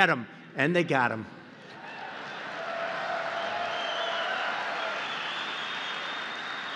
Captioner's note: applause